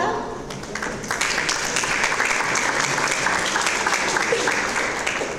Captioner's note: audience applause